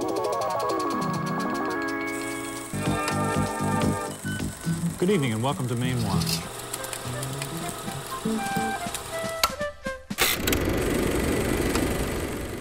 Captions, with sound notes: (mysterious music) - Good evening and welcome to Mainewatch (upbeat music) (projector clicking)